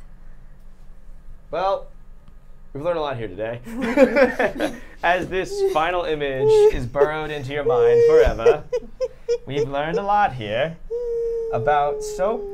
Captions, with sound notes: - Well, we've learned a lot here today. (laughing) As this final image is borrowed into your mind forever. We've learned a lot here about soap,